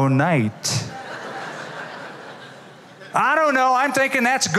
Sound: laughter

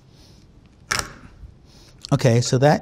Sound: cracks

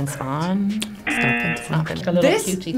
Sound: buzzer razzing

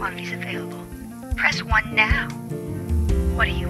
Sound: sexy female robo caller

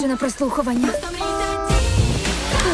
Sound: horn honks

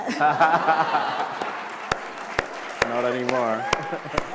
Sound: laughter

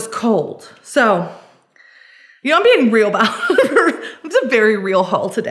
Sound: laughs

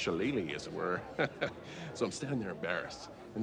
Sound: Ricky chuckles

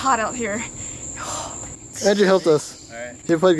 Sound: sighs

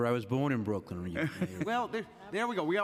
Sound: laughter

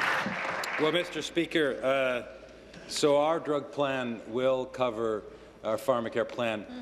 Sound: applause

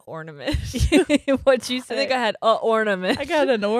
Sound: laughs

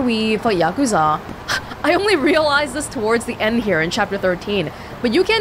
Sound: exhales

